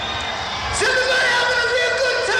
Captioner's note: cheering